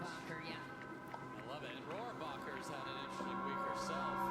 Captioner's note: faintly speaking; dramatic music